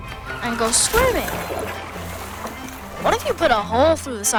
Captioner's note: lively music; water sloshing